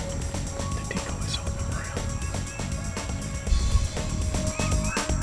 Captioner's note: whispering